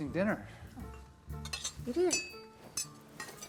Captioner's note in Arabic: رنين الأدوات